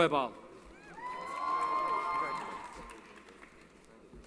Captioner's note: cheering